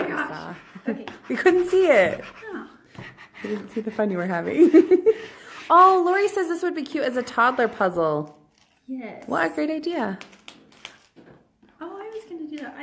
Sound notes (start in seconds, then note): 2.7 brushing